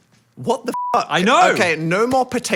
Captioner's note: beep